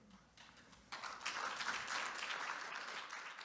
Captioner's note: applause